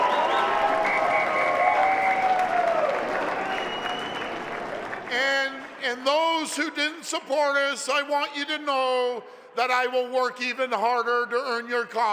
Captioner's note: applause and cheering